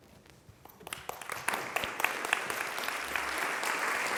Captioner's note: applause